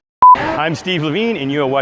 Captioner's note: beeping